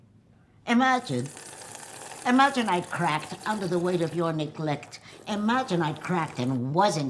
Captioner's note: slurps